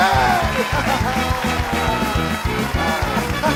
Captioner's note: laughing